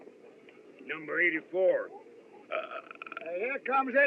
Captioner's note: belches |